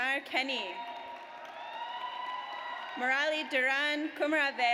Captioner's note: audience cheers